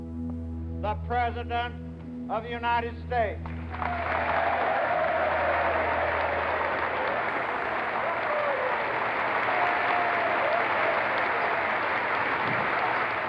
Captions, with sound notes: The president of the United States. (applause)